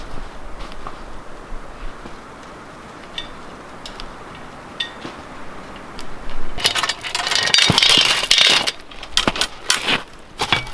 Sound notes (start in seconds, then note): 6.6 metal clattering